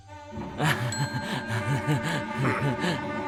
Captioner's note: laughs nervously; suspenseful instrumental music